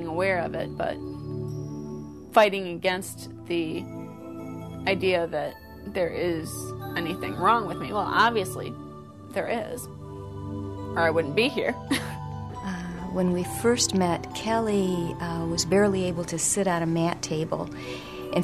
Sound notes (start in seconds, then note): 11.9 chuckles